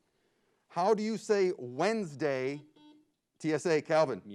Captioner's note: buzzer beeps